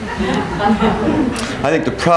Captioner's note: people laughing